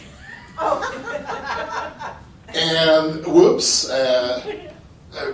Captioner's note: laughter